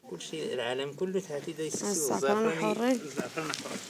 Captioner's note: Arabic spoken audio